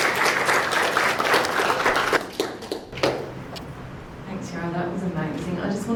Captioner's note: clapping